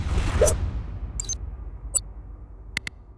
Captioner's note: tense music; beeping